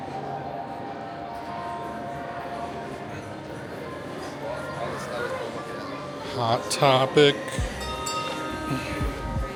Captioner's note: children chattering